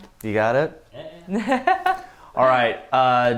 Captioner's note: laughs